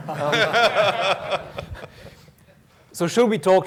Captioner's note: laughter